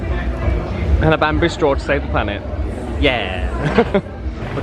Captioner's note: laughs